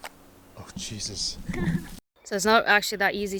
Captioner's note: laughs